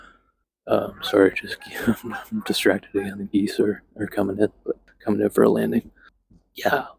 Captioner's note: laughs